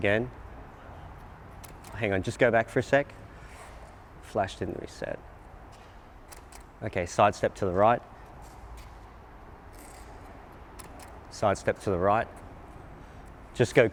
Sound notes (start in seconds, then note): 0.0 clicking; 1.6 clicking; 6.2 clicking; 10.7 clicking